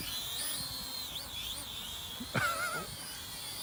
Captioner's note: laughs